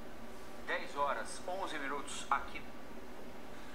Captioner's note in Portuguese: interferência de radio